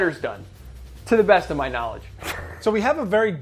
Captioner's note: laughs